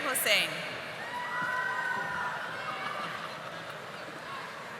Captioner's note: audience applauding